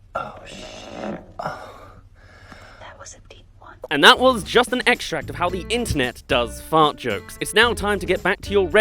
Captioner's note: Alexa Fart